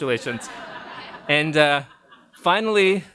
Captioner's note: audience laughs